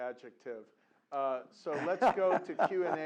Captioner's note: laugh